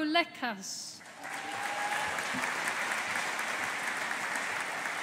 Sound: audience applauding

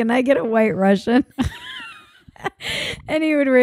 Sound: laughing

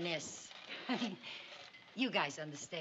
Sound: giggles

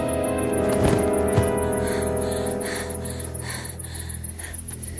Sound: breathes heavily

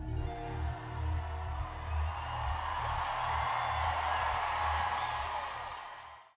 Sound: crowd cheers

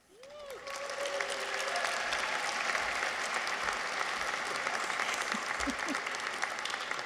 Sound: audience applauds; people cheer

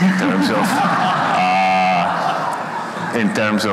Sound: everyone laughs

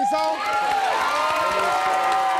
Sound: audience cheering

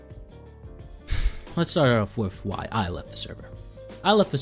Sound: sigh

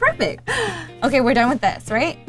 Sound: laughs

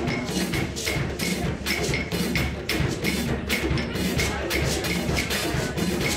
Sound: none

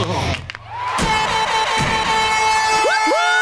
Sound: horn blowing

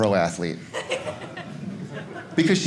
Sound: audience laughing

